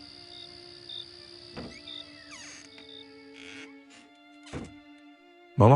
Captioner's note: sound of a door